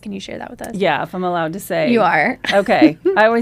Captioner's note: laughs